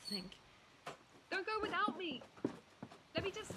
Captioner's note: calling, voice fading